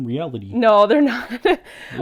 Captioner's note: laughing